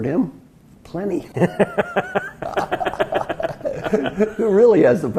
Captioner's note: laugh